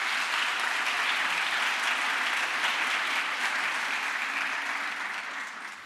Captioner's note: crowd applause